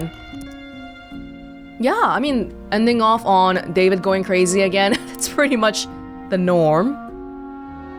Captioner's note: chuckles